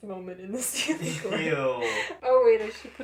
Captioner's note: laughter